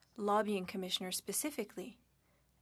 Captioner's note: speaking French